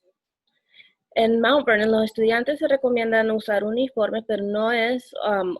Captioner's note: speaking Spanish